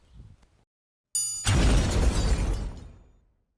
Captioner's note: triangle rings; explosion